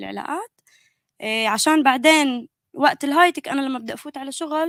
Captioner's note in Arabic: لغة أجنبية